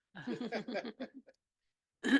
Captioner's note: laughing